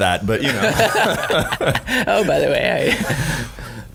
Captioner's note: laughing